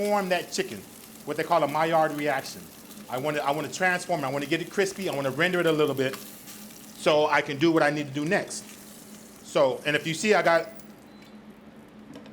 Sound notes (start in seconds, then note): none